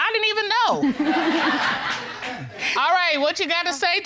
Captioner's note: audience laughing; laughs